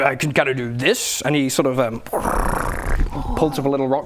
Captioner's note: brrrrrrrrrrrrrrr